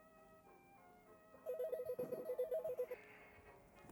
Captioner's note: phone ringing